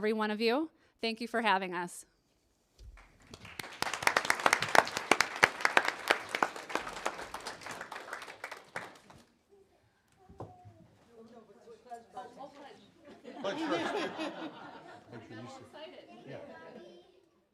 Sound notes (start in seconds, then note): 2.9 applause